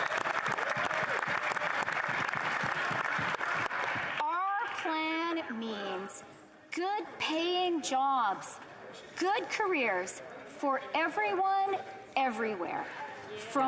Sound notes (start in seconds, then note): 0.0 applause; 4.3 applause